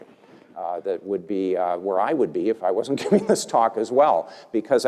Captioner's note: laugh